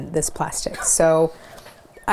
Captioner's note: laughs